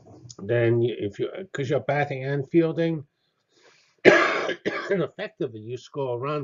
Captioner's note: cough